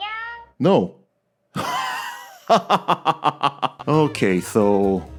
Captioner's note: laughter